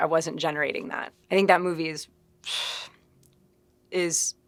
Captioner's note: sighing